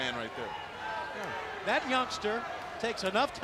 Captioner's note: crowd cheering